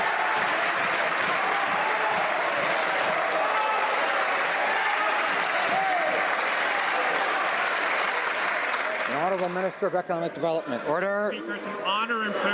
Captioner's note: some Applause